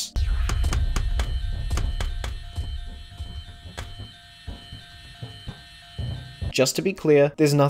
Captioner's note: annoying alarm sound